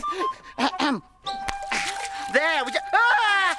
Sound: laughing; clears throat; yells

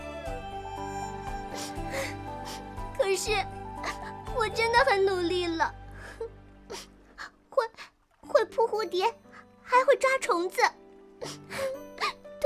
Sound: sob

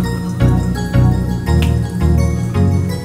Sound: snaps; electronic music

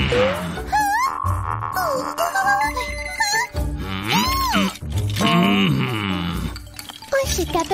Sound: groans

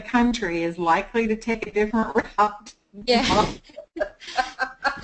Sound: laughs

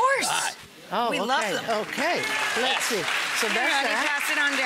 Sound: audience clap

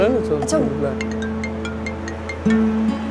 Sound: phone ringing

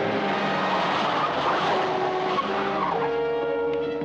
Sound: dramatic music; tires screech

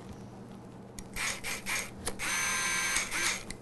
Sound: drilling sound

